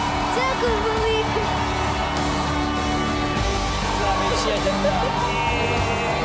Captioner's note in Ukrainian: оплески